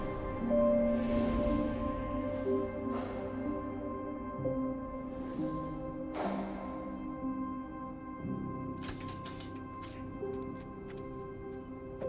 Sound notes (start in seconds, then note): 5.5 gentle music continues; 8.8 latch clacks